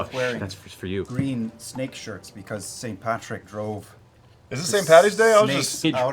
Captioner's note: Irish accent